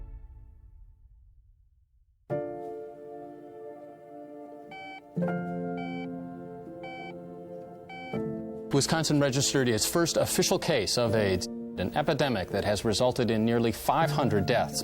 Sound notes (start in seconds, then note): 2.4 poignant piano; 4.6 heart monitor beeping